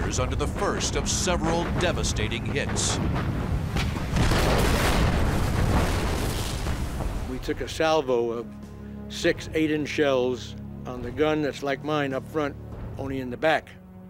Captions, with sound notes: of several devastating hits. [explosion] We took a Salvo of six 8-inch shells on the gun that's like mine up front, only in the back--